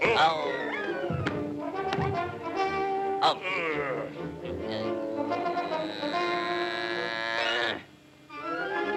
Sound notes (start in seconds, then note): 1.3 tense music; 1.8 foot thuds; 3.6 Sinbad grunts; 5.0 Popeye grunting